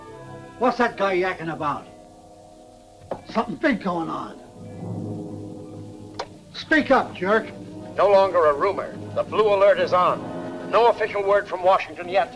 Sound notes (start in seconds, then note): 5.0 suspenseful music; 6.2 switch clicks